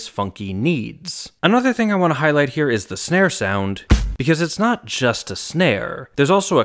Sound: bang

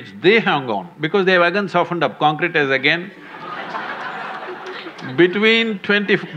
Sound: laughter

